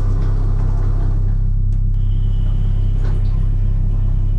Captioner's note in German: Fahrstuhlgeräusche